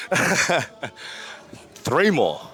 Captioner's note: laughs